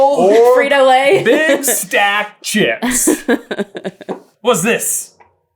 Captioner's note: laughing